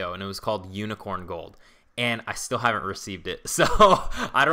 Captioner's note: laughs